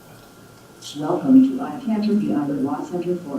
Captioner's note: computer Voice